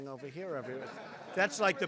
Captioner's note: laughter